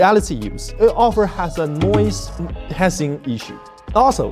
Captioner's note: hissing